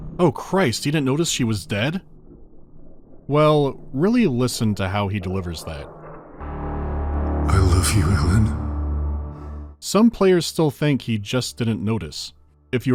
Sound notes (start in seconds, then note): 7.2 voice trembles with grief and guilt